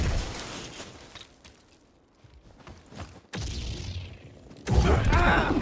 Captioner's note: silence